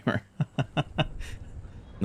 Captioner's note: laughs